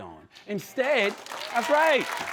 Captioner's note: applause